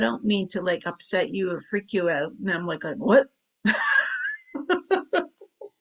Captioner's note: chuckles